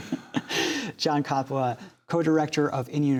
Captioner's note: laughter